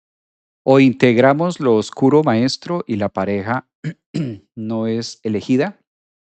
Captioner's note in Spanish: carraspeo